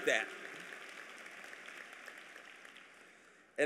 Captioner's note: applause